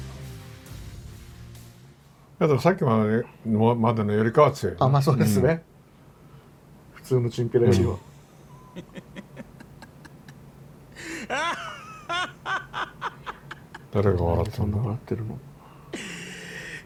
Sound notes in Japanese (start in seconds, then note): 8.6 笑い声